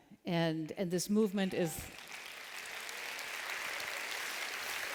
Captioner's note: applause